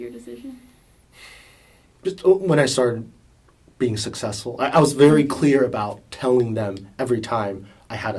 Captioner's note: sighs